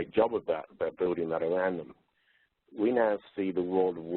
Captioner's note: distorted audio